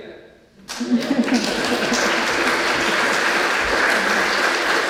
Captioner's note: congregation clapping